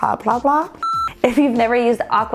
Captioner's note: beeps